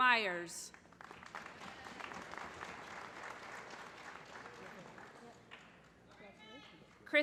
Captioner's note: applause